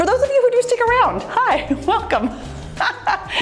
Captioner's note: laughs